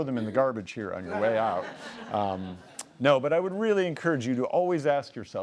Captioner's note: laughing